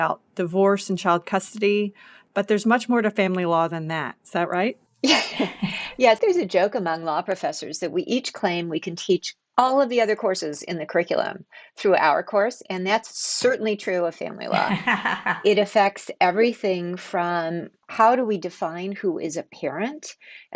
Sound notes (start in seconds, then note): 5.0 laughing